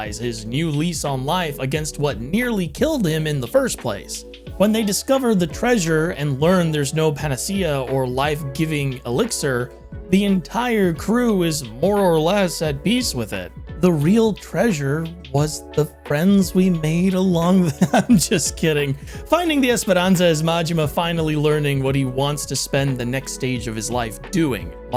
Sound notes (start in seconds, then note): 17.7 laughs